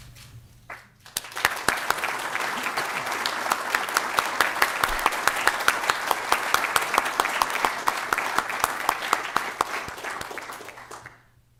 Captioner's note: applause